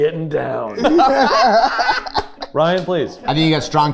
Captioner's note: group laughing